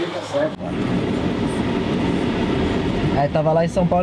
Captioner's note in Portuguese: som de motor de carro